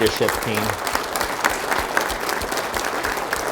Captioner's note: applause